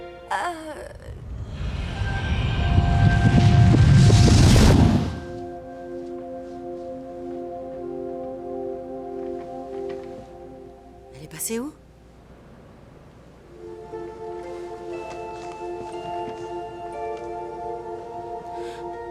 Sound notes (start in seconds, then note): 1.8 ethereal music; 4.1 whooshing; 13.4 soft music